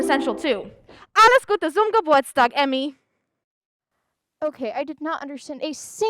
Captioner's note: speaks in German